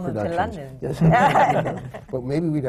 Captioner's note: laughter